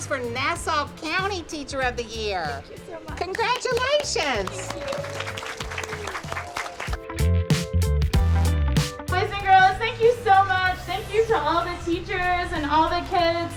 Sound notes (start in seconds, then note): 5.7 children clapping